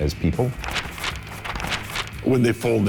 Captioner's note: paper flaps